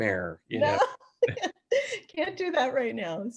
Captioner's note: laughing